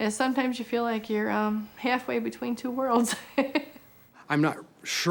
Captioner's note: laughing